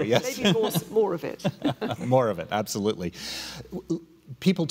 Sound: laughing

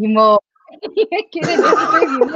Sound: laughter

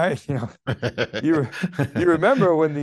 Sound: chuckling

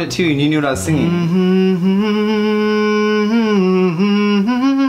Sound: humming

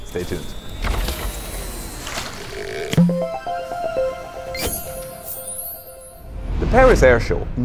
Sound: playful chime

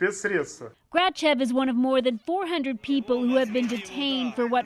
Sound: speaking Foreign Language

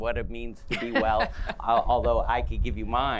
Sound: laughter

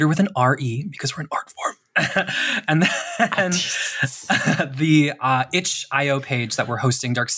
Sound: laughs

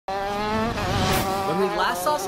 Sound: loud racing car engines

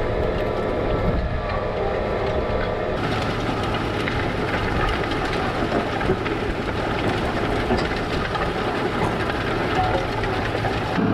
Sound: tractor sound

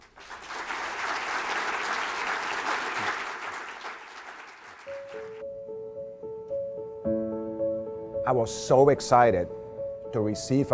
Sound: applause

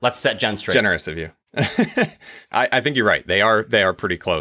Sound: laughs

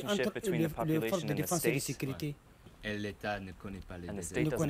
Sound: speaks in a foreign language

